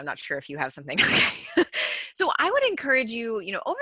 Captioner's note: chuckles